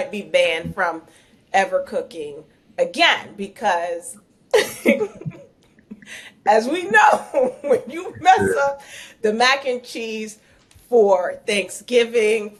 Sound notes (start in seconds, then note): 4.6 laughing